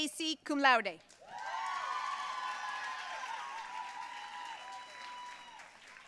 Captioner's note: audience cheering and applauding